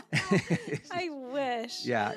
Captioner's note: both laughing